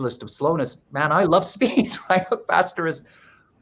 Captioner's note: laughs